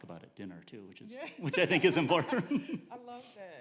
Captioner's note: laughing